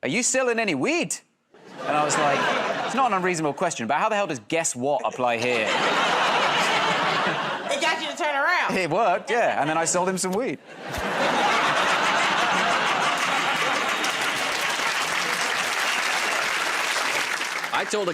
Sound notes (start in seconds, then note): 4.9 laughter; 10.6 laughter; 14.0 applause